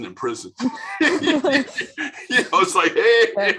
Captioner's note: laughing